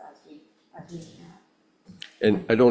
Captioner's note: faintly speaking